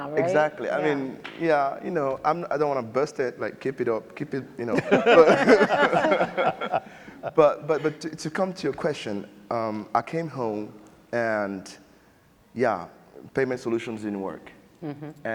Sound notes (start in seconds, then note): 4.7 panelists laughing